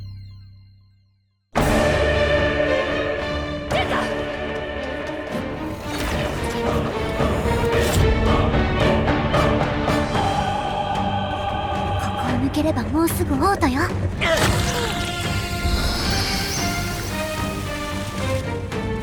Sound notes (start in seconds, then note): 3.8 yelling; 6.5 intense dramatic music playing